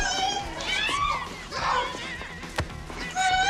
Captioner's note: screaming